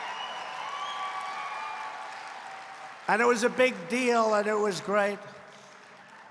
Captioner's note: applause